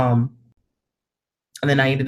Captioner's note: audio cuts out